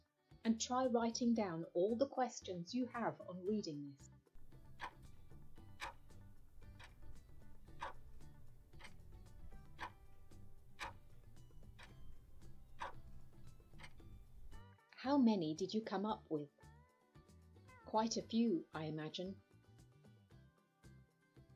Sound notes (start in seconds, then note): 6.2 clock ticking